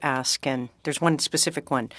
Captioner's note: speaking French